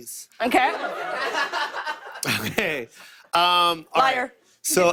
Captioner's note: laughter; laughter